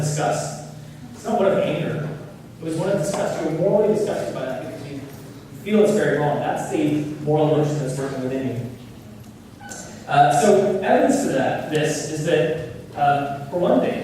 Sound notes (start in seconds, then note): none